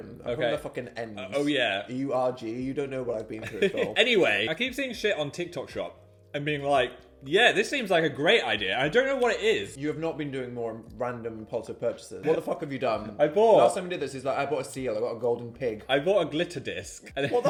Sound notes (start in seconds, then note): 3.4 chuckles; 12.9 chuckling